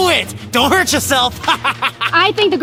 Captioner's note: manic laughing